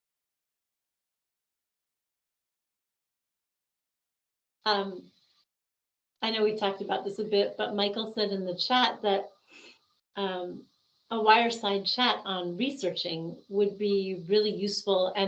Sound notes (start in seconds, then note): none